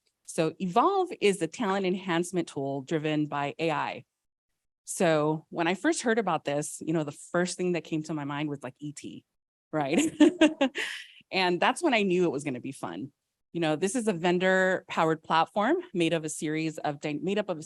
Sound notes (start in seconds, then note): 9.9 laughs